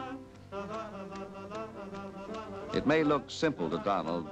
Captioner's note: humming Continues